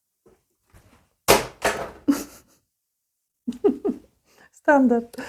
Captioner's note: sound of spray bottle falling